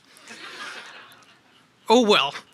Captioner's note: audience laughs